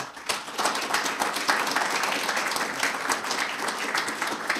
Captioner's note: audience applauding